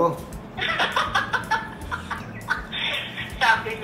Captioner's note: laughing